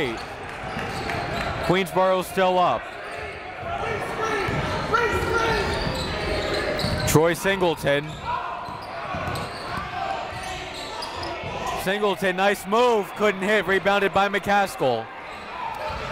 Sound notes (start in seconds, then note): 4.2 coaches yelling; 4.2 crowd talking